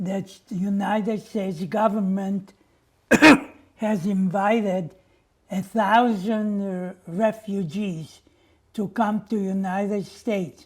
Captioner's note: coughing